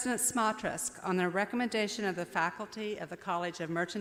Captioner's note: none